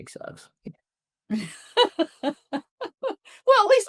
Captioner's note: laughs